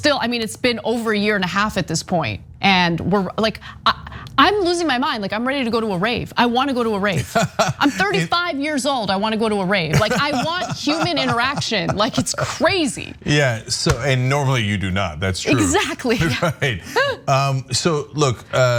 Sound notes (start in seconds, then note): 9.8 laugh